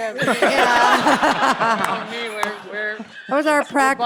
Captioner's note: all laughing